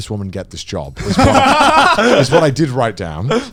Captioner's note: both laughing